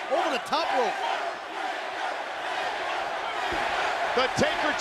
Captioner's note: crowd chants "Taker"